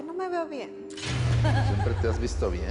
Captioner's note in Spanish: Risas